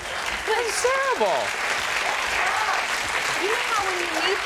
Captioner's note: audience applauding